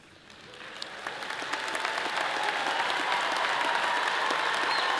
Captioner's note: audience cheers and applause